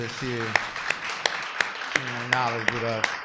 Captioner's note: applause